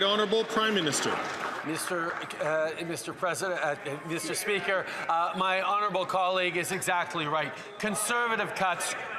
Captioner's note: some Applause